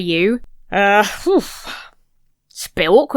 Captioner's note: sighs uncomfortably